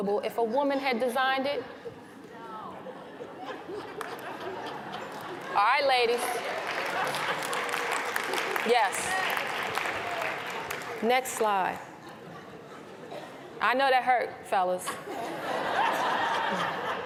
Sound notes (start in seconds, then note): 2.8 laughter; 6.1 applause